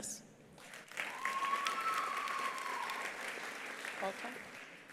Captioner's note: attendees applauding; attendees cheering